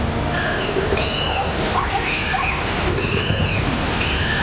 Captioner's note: monkey screeching